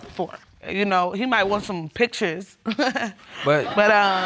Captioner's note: chuckling